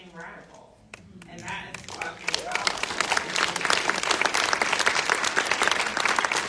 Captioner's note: audience applauding